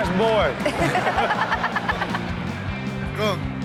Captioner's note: laughs